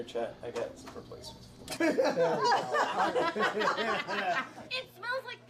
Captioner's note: laughing